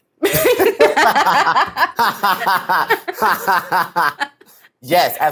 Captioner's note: laugh